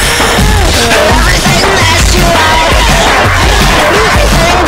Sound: distortion disortion

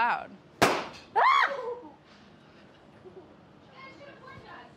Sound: pop; yells

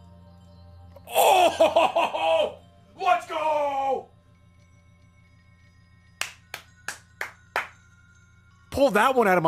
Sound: claps

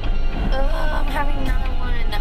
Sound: groaning

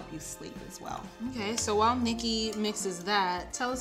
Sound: mmhmm

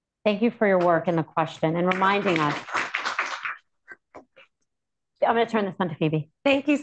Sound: applause

